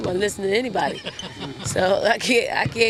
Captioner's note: interviewing laughing